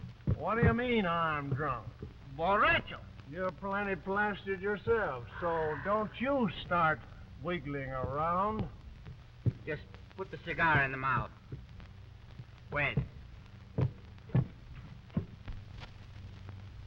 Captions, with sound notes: - What do you mean I'm drunk? (Pablo speaking in foreign language) - You're plenty plastered yourself, so don't you start wiggling around. - Just put the cigar in the mouth. Wait.